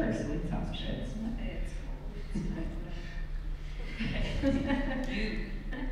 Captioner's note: laughs